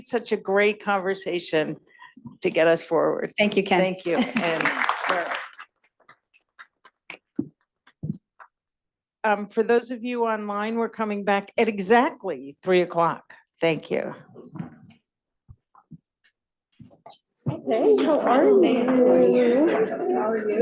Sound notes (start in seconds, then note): 4.1 applause